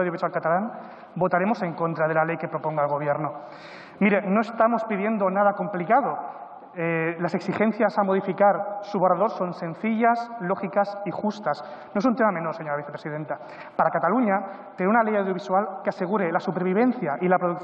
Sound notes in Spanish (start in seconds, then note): none